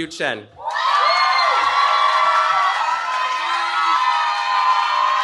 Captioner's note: cheering